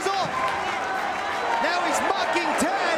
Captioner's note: spectators cheering and applauding